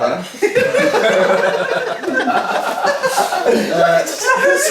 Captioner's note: cheerful laughing